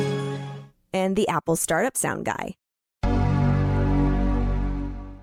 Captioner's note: Apple Startup Sound